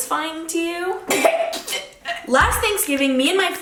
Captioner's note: coughing